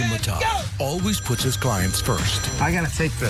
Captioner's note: phone ringing